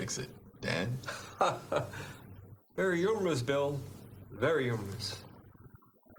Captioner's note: laughing